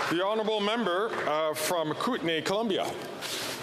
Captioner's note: some Applause